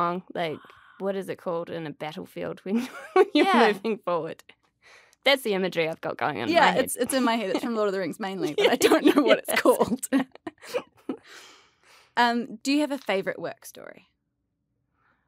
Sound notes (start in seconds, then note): 8.4 laughter